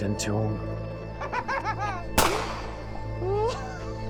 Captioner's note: firing gun; tense music